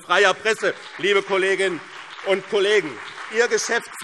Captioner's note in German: Beifall BÜNDNIS 90/DIE GRÜNEN und vereinzelt CDU